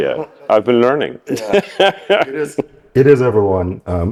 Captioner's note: laughter